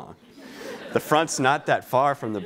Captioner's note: laughing